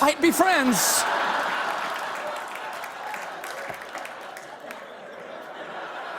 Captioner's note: laughter